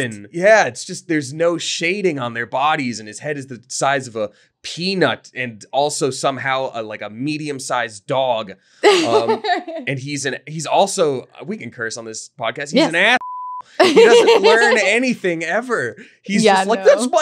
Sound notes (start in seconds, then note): 8.8 laughing; 12.8 beep; 13.8 laughing